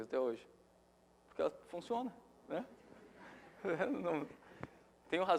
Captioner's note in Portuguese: Risos